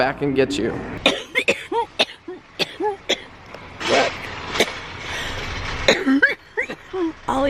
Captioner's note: coughing